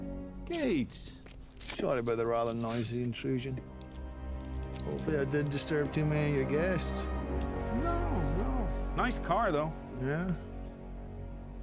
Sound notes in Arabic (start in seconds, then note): 2.4 لكنة اسكتلندية; 10.4 لكنة اسكتلندية